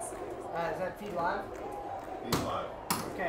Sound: crowd chanting

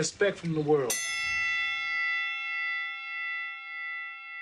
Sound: bell dings

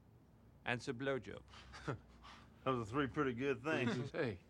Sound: chuckles

